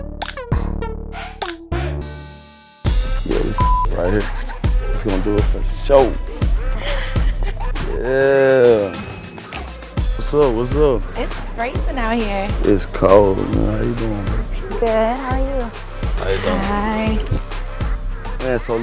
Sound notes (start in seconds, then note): 3.6 beep